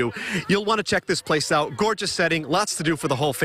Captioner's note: laughter